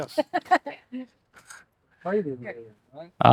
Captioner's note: laughs